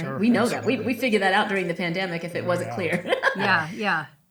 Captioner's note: laughs